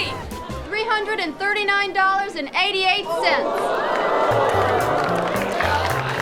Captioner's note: crowd applauding